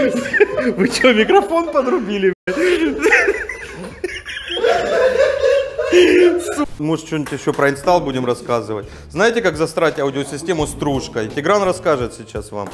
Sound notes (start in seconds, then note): 2.5 laughing